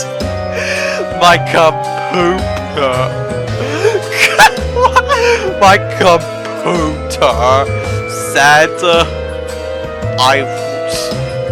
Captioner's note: laughing insanely